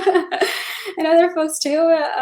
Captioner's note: laughing